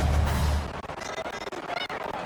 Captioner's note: crowd Noises